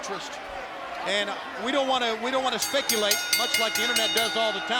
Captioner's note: bell rings